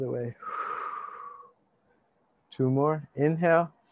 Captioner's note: exhale deeply; inhale deeply